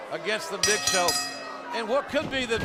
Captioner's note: bell ringing